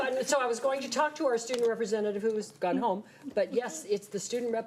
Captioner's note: none